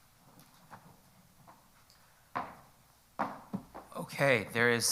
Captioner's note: footsteps approaching